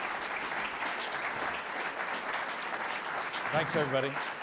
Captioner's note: clapping